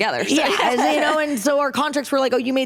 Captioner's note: laughter